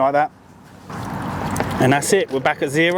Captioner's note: traffic whooshing; water gurgling